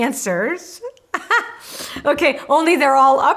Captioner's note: laughing